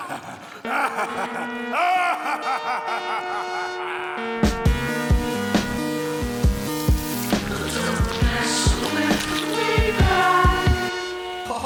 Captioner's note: evil laughter